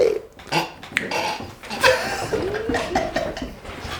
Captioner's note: Hugo stifles his laughter